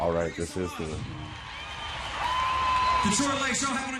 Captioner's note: crowd cheers